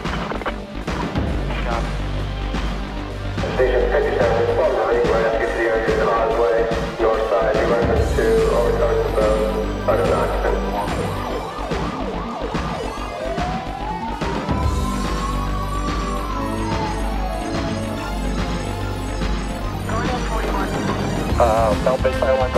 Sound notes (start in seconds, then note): 0.1 upbeat music; 3.5 radio chatter; 10.9 siren wailing; 12.3 upbeat music; 19.8 radio chatter